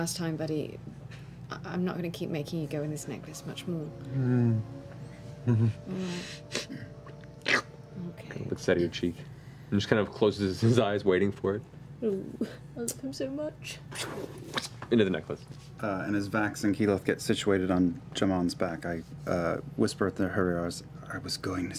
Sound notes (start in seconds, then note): 4.7 bear grunts